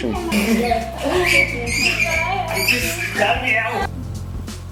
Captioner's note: kids laughing